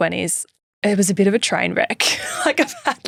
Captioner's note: laughing